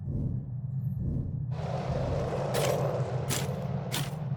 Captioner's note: wheels rolling